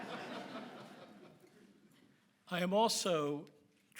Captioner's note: audience laughs